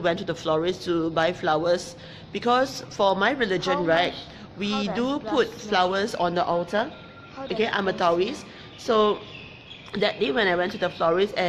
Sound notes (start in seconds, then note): 7.8 speaking in foreign language